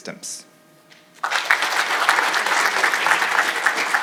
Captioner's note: audience applauding